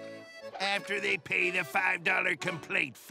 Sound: none

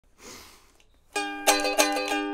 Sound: gross nose sniff

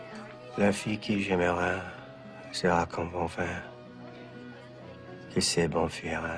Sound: speaking beautifully in French

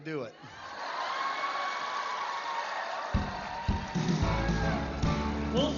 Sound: laughter and cheers; upbeat music

